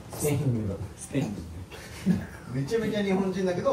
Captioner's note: chuckling